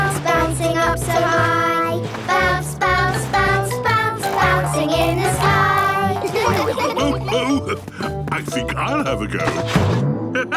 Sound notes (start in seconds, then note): 4.2 laughs